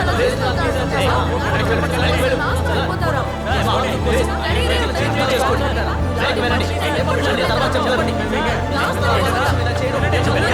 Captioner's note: clamouring continues